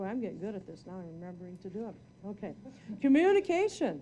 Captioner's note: audience chuckling